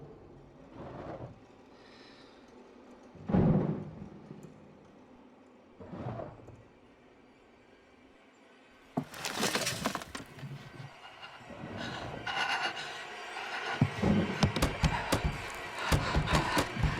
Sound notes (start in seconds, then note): 12.9 breathing heavily